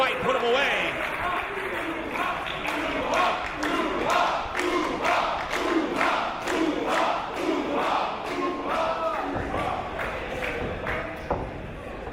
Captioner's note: applause